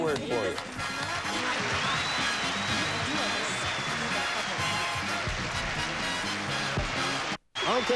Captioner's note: audience applauding